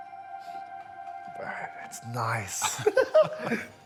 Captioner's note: laughs